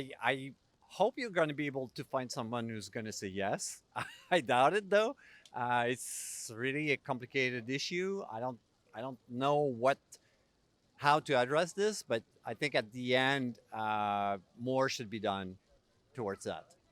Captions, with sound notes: I hope you're going to be able to find someone who's going to say yes-- [laugh] I doubt it though, it's really a complicated issue, I don't know how to address this, but I think at the end, more should be done towards that.